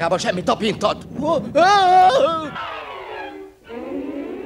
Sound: screams

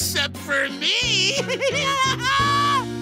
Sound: evil laugh

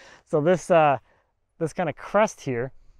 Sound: none

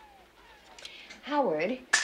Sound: blind rattles

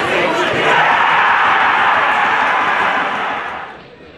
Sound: crowd celebrates

